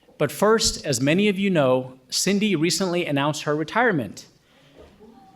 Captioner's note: none